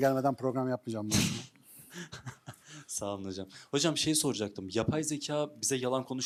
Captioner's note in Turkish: kahkaha